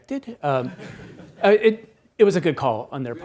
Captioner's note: attendees laughs